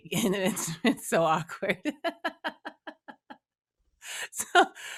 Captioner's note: laughing